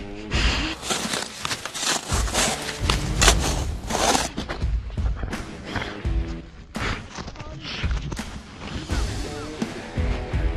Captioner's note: panting